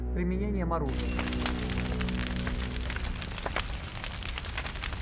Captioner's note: flames crackling